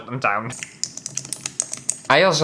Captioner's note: typing